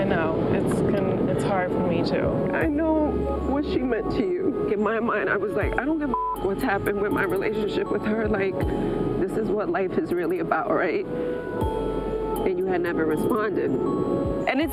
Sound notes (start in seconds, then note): 6.0 beep; 11.5 somber music plays